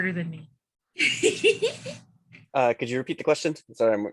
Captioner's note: laughing